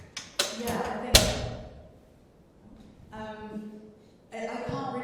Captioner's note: door closing